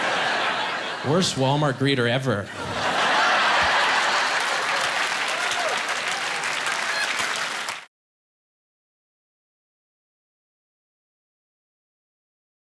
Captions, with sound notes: Worst Wal-Mart greeter ever. (Applause)